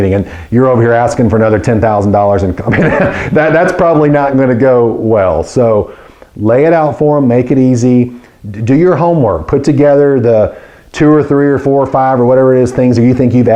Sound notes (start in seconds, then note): 2.6 laughing